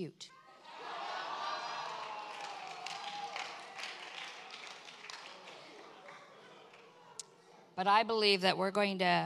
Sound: congregation cheers

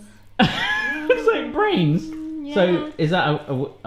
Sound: laughs

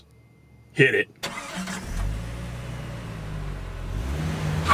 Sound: car engine starts

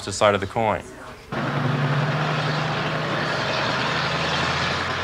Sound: city sounds

